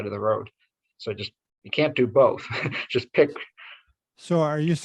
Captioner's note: chuckles